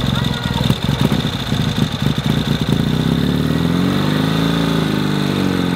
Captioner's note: engine starting; engine roaring